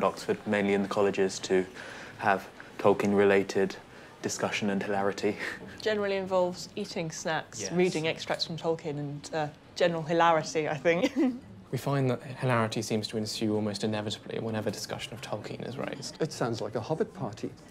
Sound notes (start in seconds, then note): 5.2 chuckles; 11.1 laughs